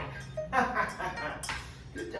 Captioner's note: he laughs